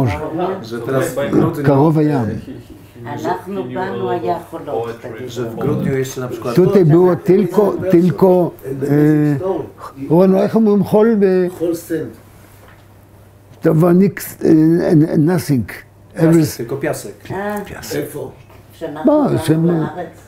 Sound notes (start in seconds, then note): 9.2 in Hebrew; 18.0 discussion in Hebrew to clarify